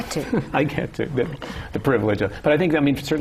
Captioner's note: laughter